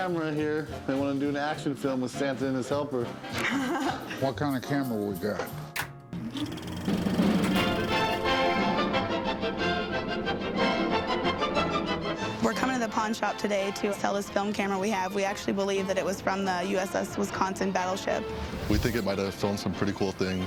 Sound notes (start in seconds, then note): 3.4 laughs; 5.4 film reel clicking; 6.7 old timey music